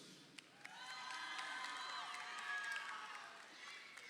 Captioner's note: crowd cheering